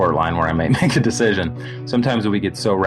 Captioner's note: laughs